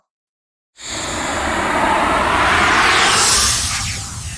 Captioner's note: smoke whooshing